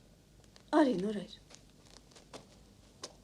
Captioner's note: tip-tap